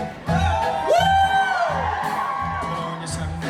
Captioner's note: audience cheers